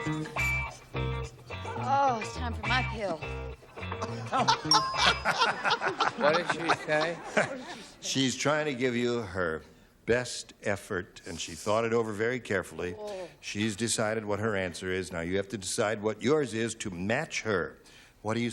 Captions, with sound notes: - Oh, it's time for my pill. [laughter] - What did she say? - She's trying to give you her best effort, and she thought it over very carefully. She's decided what her answer is. Now you have to decide what yours is to match her.